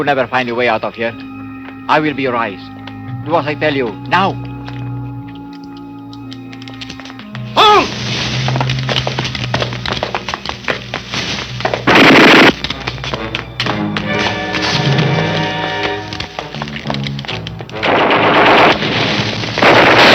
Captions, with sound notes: - You will never find your way out of here. I will be your eyes. Do what I tell you now. (speaking in foreign language) (gunshots blasting) (suspenseful orchestral music)